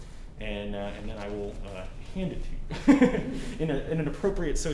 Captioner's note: giggles